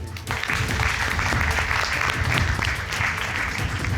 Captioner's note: audience applauding